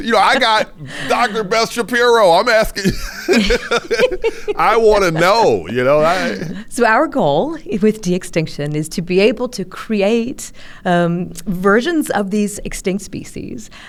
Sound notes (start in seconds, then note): 3.8 laughs